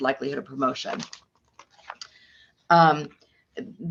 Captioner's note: paper rustles